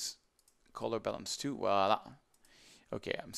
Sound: speaks in foreign language

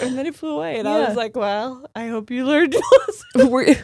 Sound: laughing

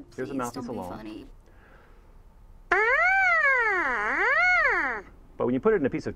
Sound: buzzing

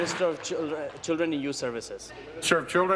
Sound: applause

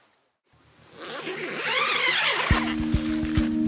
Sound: zipper zips; soft electronic music

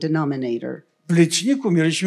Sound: foreign language

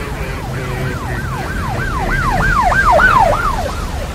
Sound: radio squawking; sirens wailing

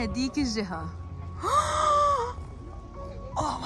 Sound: gasps

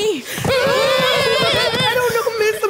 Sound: grunting

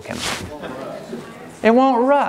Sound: audience speaking

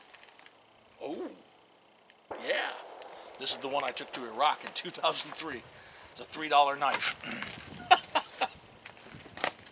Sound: laughs

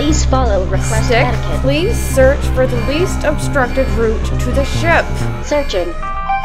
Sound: slowly but angrily

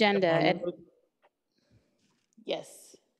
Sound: faintly speaking

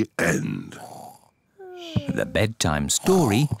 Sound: both snore

